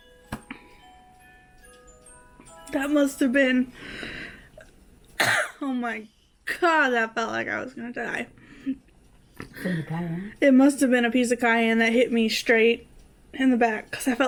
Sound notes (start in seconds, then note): 5.2 coughs